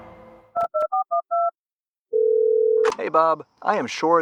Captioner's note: phone dial and ring sound